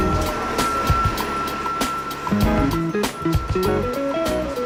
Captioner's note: bus engine noise and beeping